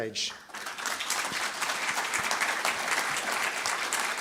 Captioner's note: audience clapping